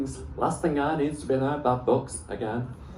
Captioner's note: none